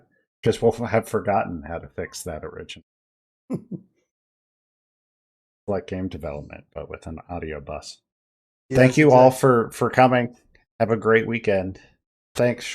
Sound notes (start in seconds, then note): 3.5 snickers